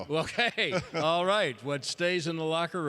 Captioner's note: laughter